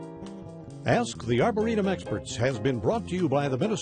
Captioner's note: voiceover